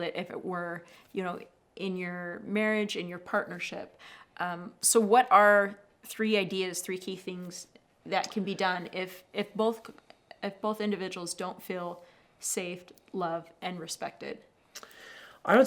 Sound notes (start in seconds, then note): none